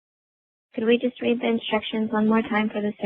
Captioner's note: voiceover